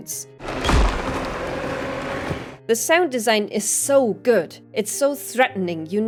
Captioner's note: more threatening alien sounds